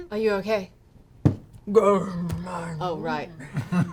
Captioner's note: rock noises